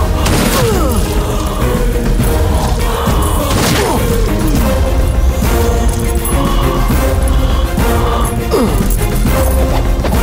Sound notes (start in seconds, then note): 0.2 gunshot; 3.5 gunshot